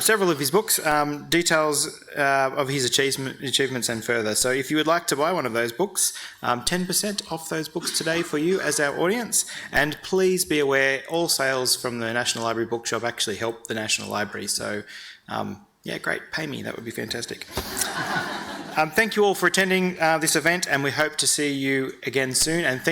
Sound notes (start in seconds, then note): 17.5 audience laughing